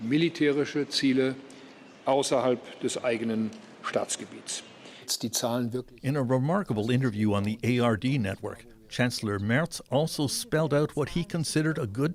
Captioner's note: speaking dutch language